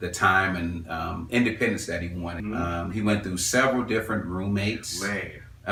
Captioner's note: laugh